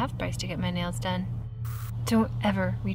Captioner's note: static crackles